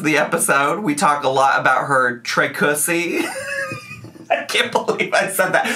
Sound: laughs

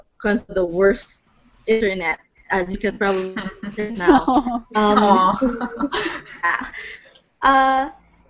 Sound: laughter and Ohs

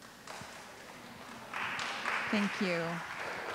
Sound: audience clapping

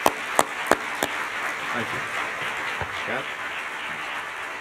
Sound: applause

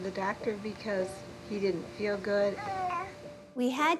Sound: coos

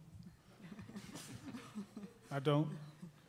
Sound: laughing

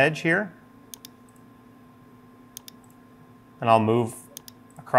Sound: mouse clicking

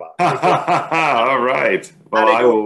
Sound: laughing

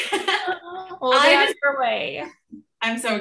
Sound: laughing

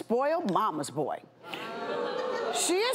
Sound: audience boo's

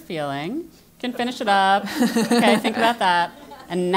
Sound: laugh

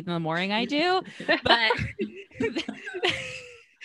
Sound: all laughs

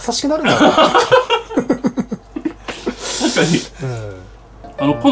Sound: laughter

